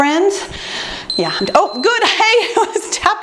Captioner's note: beeping